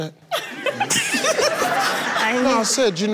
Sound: laughs

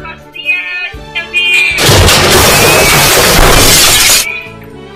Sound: explosion

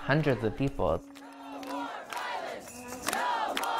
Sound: crowd Chanting

